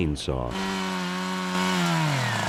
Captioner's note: chainsaw buzzing